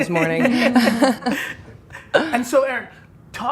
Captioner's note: laughing